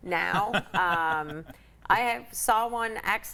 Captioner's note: laughs